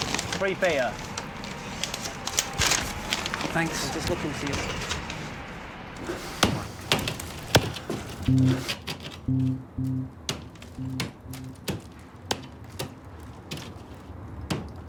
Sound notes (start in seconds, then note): 7.5 hammer thudding; 9.3 suspenseful music